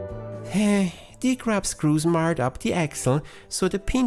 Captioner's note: sigh